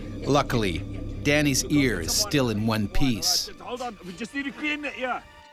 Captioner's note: voiceover